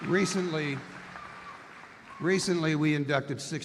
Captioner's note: applause